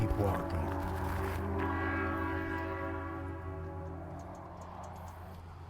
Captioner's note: train horn blowing faintly; traffic humming faintly